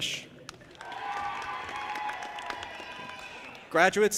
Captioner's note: audience applauding and cheering